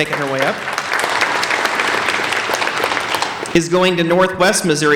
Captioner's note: applauding